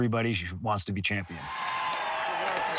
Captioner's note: crowd cheering